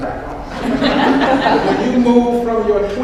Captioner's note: audience laughs